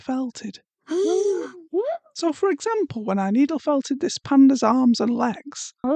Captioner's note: gasp